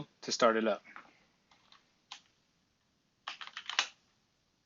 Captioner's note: typing